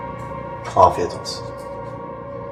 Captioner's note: none